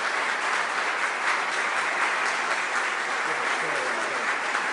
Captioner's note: applause